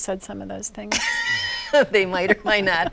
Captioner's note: laughs